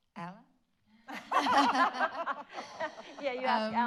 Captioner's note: all laugh